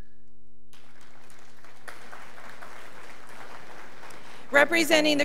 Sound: graduates applauding

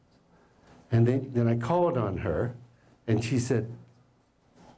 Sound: none

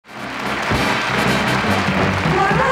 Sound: audience applauding

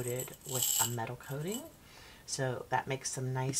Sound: hooks rattling

